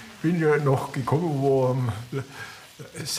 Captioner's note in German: none